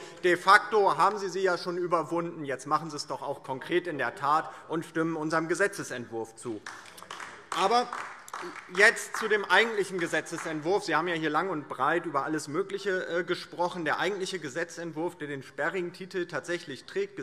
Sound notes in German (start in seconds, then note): 6.5 Beifall DIE LINKE